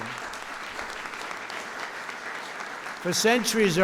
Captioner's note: applause